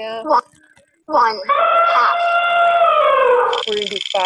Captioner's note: voiceover; elephant trumpeting